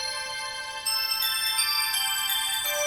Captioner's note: none